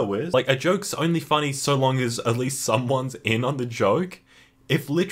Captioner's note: inhale